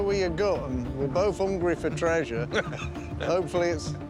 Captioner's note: laughs